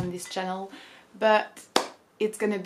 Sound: clap hands

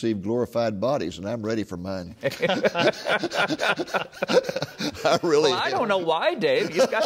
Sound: laughing

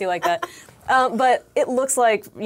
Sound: laughs

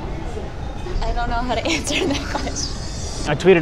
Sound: laughing

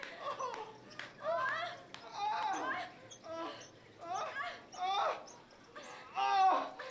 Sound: Donnie and Janine moaning and grunting

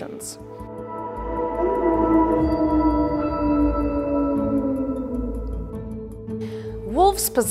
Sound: wolf calls

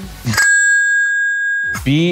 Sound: bell dinging

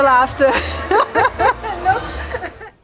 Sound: laughter

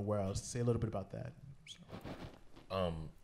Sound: none

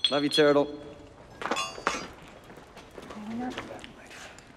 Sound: metal clanking

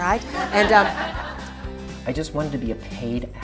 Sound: laughter

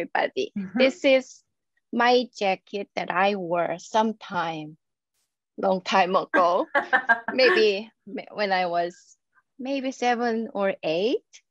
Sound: laughs

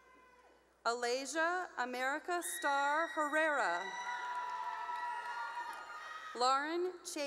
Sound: cheering; cheering

